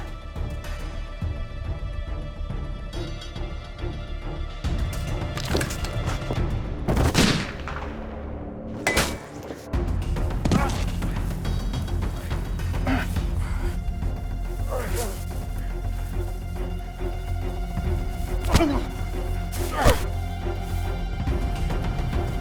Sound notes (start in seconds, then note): 6.9 gunshot; 8.9 bullet ricochets; 10.4 fighting, grunting; 19.5 fighting, grunting